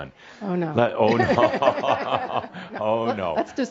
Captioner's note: they both chuckles